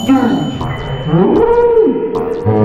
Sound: screaming

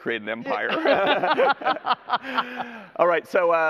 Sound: laughter

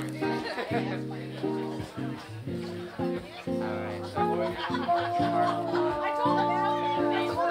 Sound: people chattering; soft music

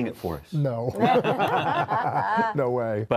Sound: all laughing

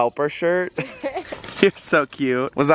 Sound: giggles

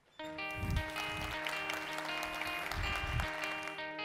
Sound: applause

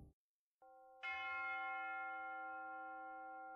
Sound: bells toll in the distance

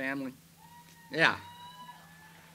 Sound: audience shouts

